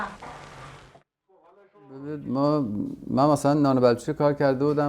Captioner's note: speaking foreign language